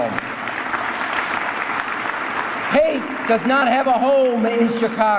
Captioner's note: applause